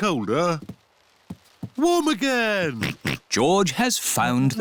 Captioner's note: oinks